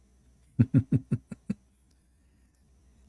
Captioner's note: Ketawa